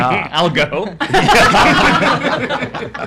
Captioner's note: laughs